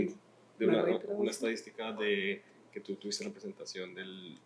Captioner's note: non-english speech